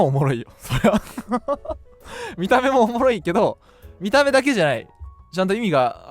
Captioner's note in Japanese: 笑い